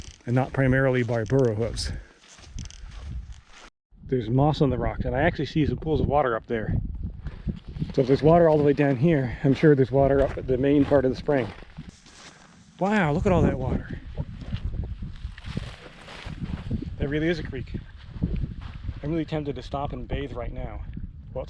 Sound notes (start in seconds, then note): 2.3 footsteps thumping